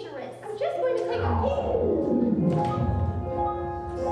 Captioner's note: vortexy sucking noise